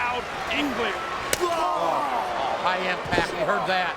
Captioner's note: Shawn groans; hand slaps